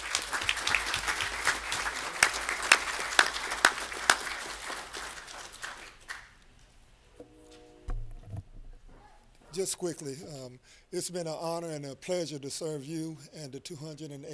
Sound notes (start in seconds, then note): 5.3 applause